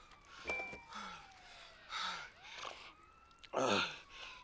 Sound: camera dinging

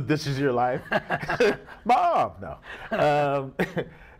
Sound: laughs

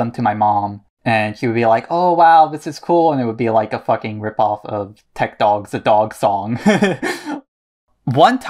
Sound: laughs

